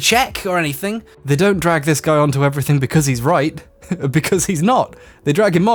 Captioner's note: snickering